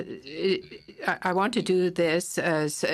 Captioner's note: speaking FRENCH